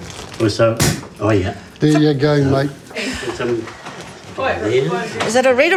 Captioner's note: cork pops